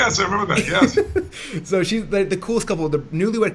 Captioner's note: laughing